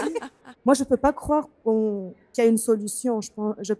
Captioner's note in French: rires